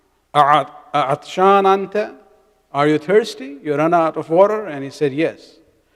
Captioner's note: arabic